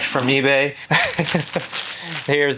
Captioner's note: laughs